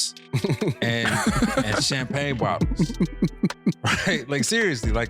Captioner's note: laughing